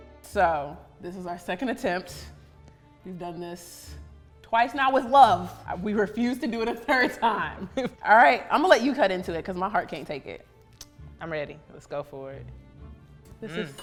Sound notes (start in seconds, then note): 0.0 mysterious music; 7.6 laughs